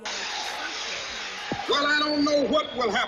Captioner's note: crowd cheering